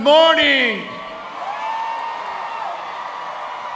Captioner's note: applause